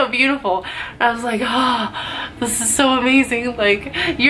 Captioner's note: gasp